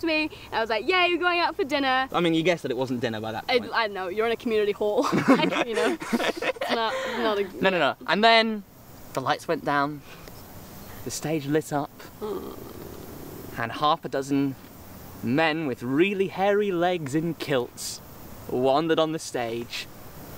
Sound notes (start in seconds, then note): 5.0 laughing; 12.2 groaning